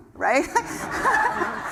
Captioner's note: laugh